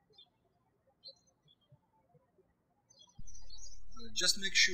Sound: birds chirping

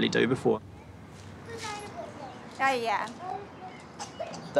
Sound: chatters

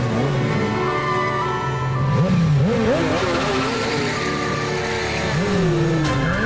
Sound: sirens blaring

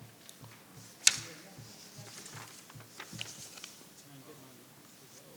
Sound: board members chattering

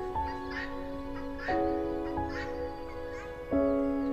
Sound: female guinea fowl calling

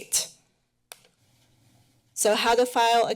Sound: pause

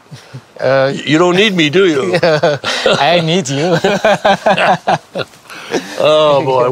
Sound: both laugh

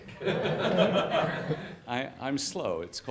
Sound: audience laughs

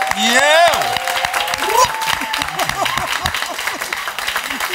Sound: cheering

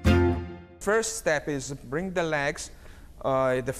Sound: light playful music; with Italian accent

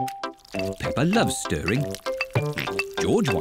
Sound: oinks

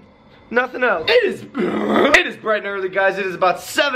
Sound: voice cracks; clears throat

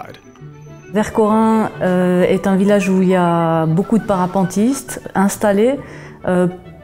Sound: speaking in a foreign language

